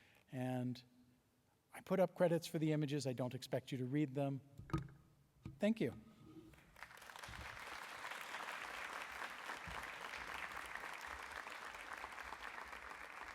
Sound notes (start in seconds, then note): 6.6 applause